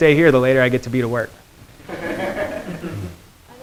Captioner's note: students laughing